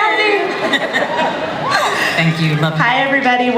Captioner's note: laughter